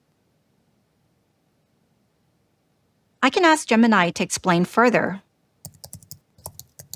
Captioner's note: keyboard clicking